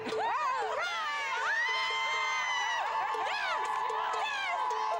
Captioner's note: cheering